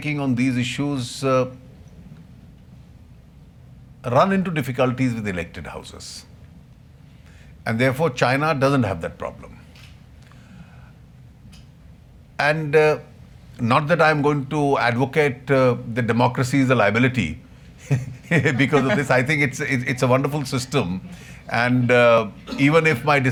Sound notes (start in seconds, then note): 17.8 laughter